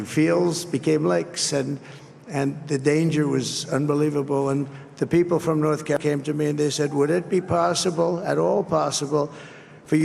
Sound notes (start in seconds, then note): none